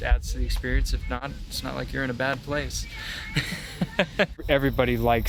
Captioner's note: laughs